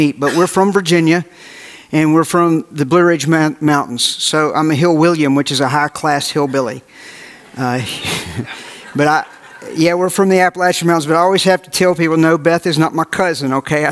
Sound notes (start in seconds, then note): 7.4 audience laughs